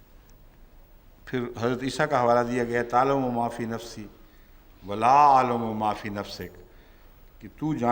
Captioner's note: Arabic